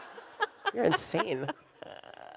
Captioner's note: audience laughs; laughs